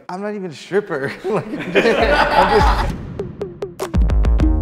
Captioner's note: group laughs; techno music plays